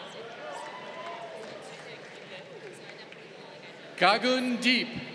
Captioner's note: crowd applauding